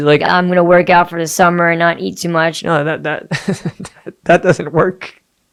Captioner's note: laughing